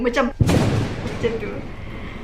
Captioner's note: thunder roaring